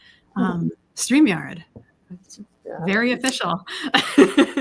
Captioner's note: laughs